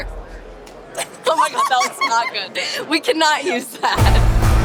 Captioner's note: laughter; upbeat music